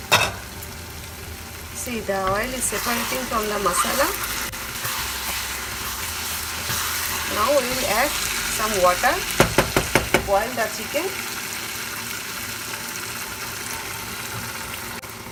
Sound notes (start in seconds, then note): 4.2 chicken sizzling; 9.3 spoon clanking